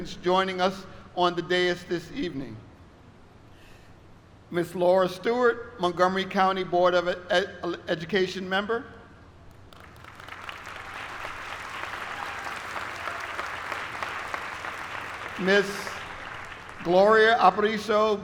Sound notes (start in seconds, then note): 13.5 applause